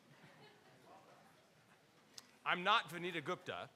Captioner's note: laughing